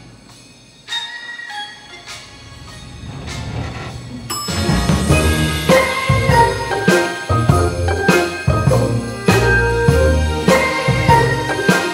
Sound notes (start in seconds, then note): 4.0 elevator bell dings